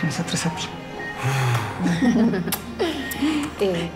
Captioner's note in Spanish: Risas